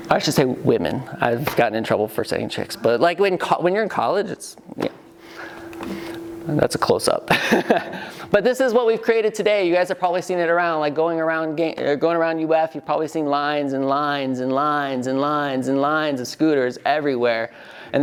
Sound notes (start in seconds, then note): 7.3 laughs